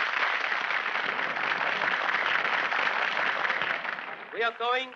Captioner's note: crowd applauding